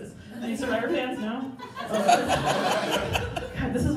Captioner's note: crowd Laughing